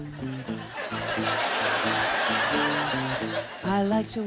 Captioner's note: laughter